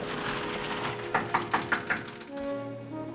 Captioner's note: knock on door